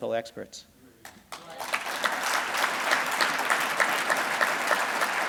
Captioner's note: audience applauding